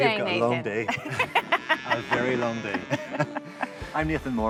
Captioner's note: both laugh